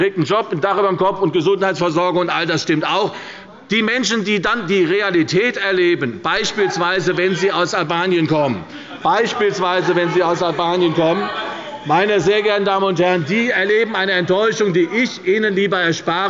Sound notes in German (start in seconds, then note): 6.3 Zurufe